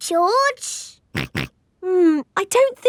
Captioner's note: snorts